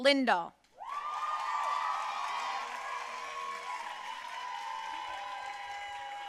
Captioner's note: audience cheering and applauding